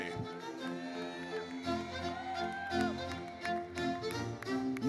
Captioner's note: audience cheers